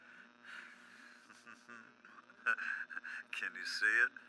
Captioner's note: laughs